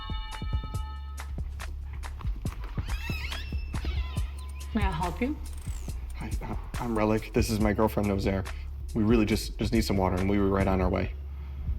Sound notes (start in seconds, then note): 2.4 door creaking